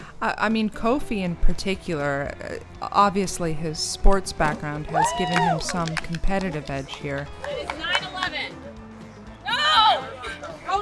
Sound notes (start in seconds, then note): 7.6 shouting; 9.4 screaming